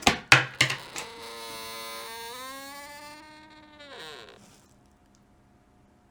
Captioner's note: clattering noises; squeaky hinge noises